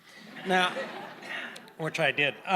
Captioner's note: audience laughing